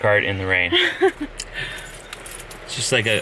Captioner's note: slight laugh